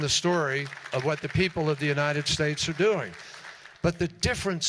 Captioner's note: applause